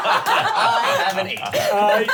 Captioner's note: laughing